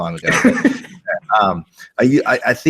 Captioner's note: laughs